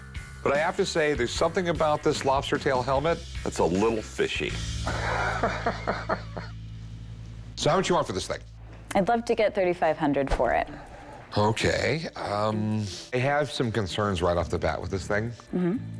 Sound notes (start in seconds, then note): 4.8 laughs